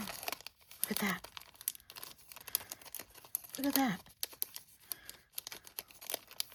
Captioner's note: gasp